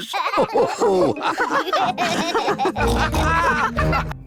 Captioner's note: all laugh